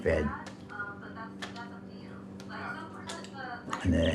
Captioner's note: tranquil music playing; voice overhead